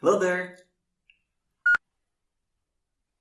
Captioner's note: beep